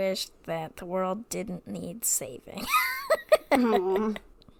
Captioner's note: laughing